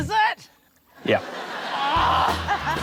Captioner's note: laughs; groans